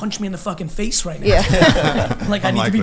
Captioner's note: laughing